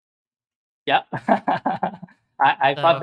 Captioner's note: laughs